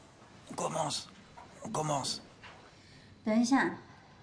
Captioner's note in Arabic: فرنسي